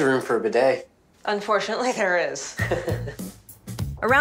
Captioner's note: chuckles